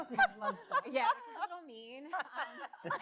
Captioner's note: all laugh